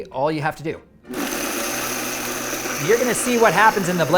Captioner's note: blender whirring